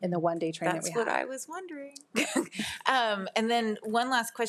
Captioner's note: laughs